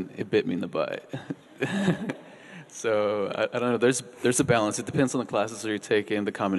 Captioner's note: laughs